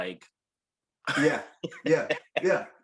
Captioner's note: chuckling